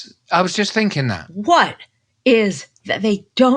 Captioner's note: imitating kids